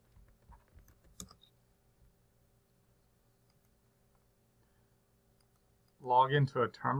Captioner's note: typing